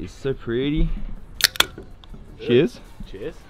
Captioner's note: can opening